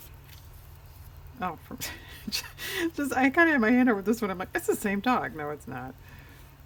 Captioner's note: laughs